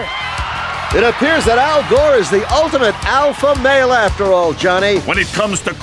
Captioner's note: crowd cheering; crowd cheering in background